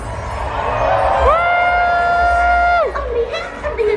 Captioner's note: crowd cheering